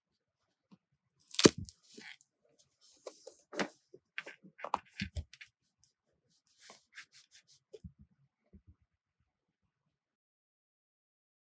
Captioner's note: closing journal